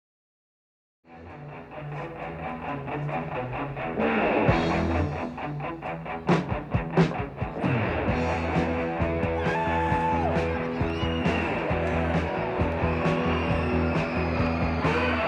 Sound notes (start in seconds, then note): 1.2 upbeat rock music; 9.4 crowd cheering